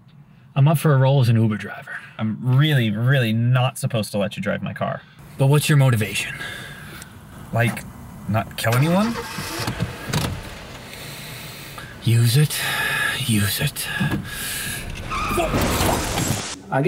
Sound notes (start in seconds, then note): 8.6 engine revving; 11.1 inhaling; 15.0 tires screeching; 15.9 car crashing